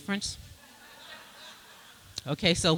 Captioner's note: laughter